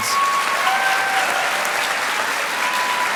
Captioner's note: applause